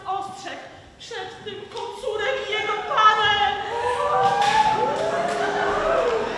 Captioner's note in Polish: Aplauz